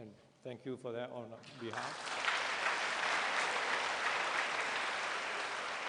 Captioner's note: applause